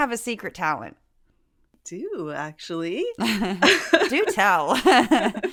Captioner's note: laugh